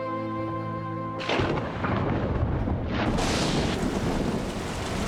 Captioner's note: thunder